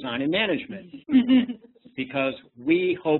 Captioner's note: laughs